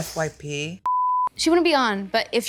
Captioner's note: screen beeping